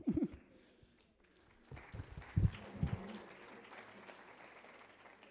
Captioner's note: applause